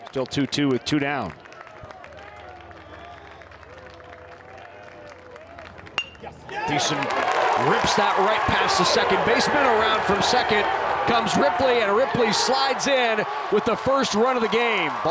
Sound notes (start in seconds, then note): 2.5 crowd applauding; 6.0 bat dings